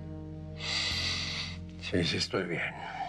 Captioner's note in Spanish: suspiros